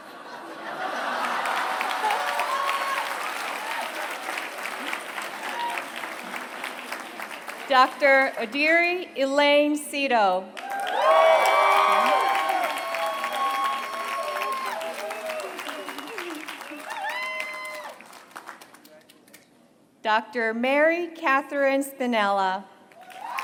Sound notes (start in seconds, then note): 0.0 laughter; 10.5 applause; 22.9 applause